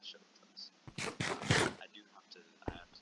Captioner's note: om nom nom!!